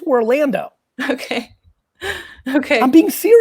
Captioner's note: laughs